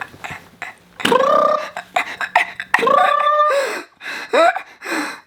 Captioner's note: trilling